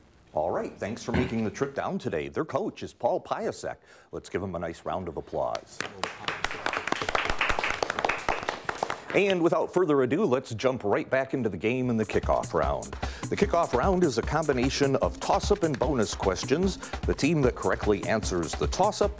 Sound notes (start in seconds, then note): 5.8 audience applauds; 12.6 quick tempo music